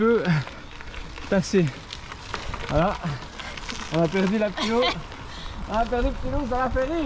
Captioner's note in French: Rire